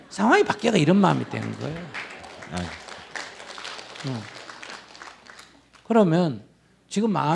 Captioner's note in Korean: 청중 박수